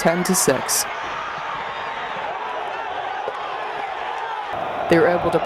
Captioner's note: crowd noise and cheering